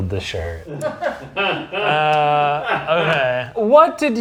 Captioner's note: crew member laughing